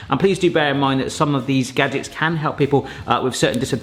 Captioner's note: none